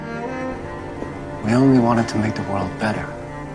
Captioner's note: voiceover